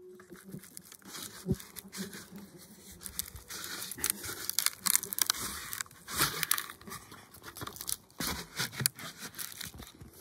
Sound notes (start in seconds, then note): 1.2 bark tearing